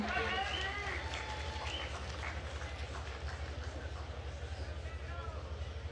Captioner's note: attendees cheering and applauding